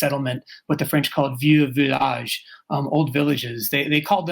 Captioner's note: speaking french